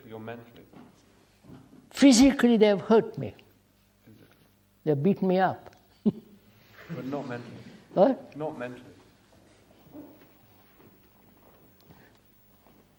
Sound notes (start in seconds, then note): 6.0 laughter; 6.4 laughs